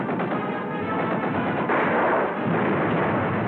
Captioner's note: gunfire